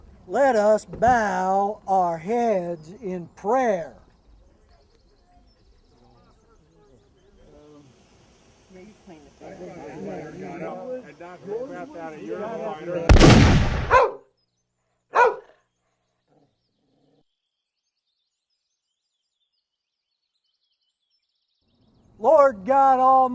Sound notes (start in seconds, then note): 6.0 crowd grumbling; 13.0 gunshot